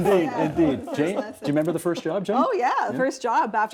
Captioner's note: laughter